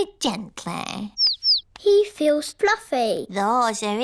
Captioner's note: chirping